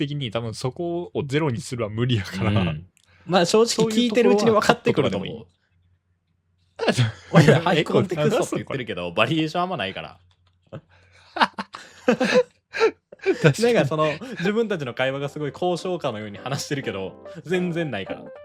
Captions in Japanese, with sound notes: 的に多分そこを0にするは無理やから。 うん。 ま、正直聞いてるうちに分かってくるのもいて言ってるけどバリエーションあんまないから [笑い] なんかその自分たちの会話がすごい交渉感のように話してるけど全然ないから。